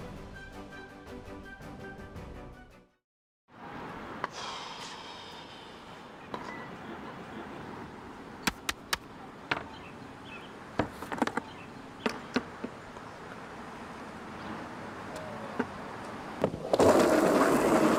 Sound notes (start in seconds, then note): 4.3 man sighs; 10.2 quiet park, birds chirping